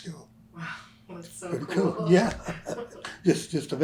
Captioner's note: laughter